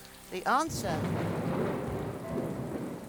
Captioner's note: thunder rumbling